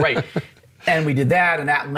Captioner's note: laughs